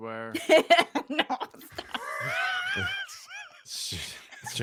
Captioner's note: laughs